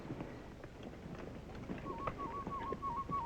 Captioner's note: bird whistle